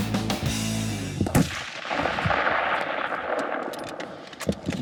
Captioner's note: banging